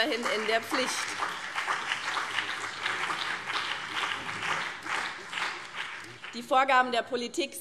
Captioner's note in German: Beifall BÜNDNIS 90/DIE GRÜNEN und vereinzelt CDU